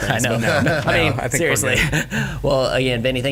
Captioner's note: all chuckling